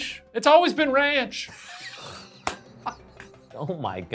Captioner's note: laughing